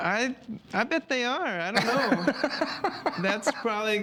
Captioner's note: laughs